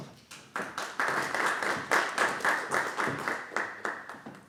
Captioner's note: audience applauding